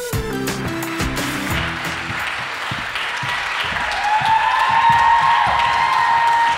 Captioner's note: audience applauding and cheering